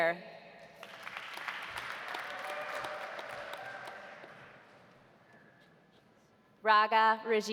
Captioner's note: audience applauding; audience cheering